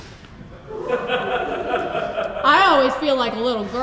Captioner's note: audiences laughs